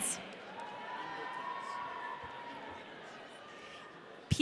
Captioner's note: audience cheering